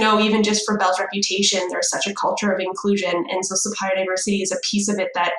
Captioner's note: none